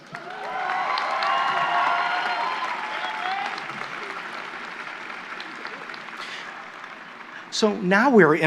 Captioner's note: applause